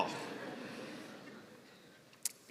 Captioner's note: laughter